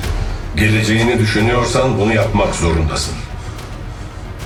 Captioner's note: unknown Echo